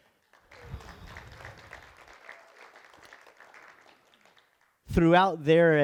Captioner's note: applause